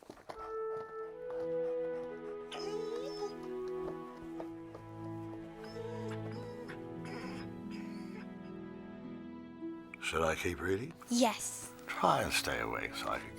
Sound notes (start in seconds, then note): 0.7 Buck whines softly; 0.7 gentle music